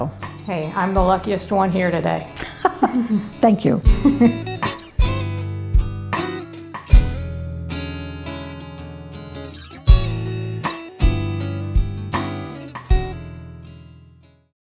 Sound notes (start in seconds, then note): 3.8 laughs; 4.4 gentle music